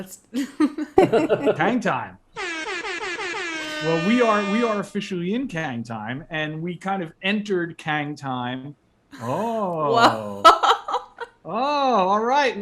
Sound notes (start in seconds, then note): 2.4 air horns